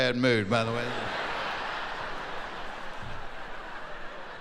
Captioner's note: laughing